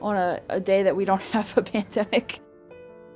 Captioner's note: laughs